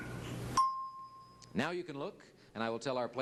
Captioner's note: bell ding